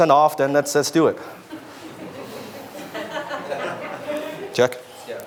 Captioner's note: audience laughs